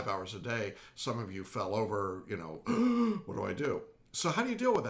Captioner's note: gasping